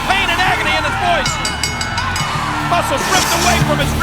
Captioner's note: bell ringing